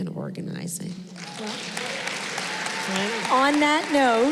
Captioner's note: applause